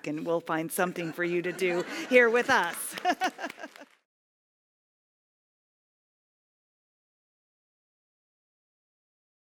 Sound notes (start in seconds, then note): 1.9 applause; 2.9 laugh